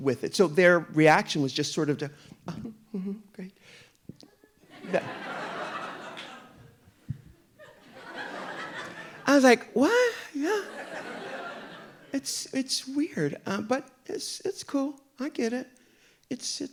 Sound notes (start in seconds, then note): 4.7 audience laughing